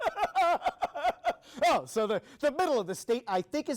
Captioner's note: reporter laughing